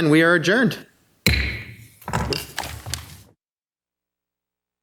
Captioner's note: gavel banging